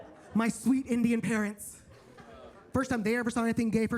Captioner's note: attendees laughing; attendees laughing